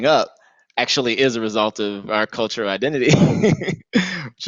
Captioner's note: laughs